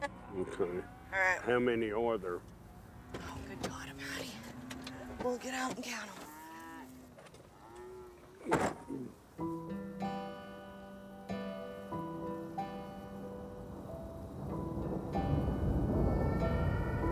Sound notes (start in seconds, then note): 6.1 cows lowing; 9.0 gentle music; 13.4 thunder rumbling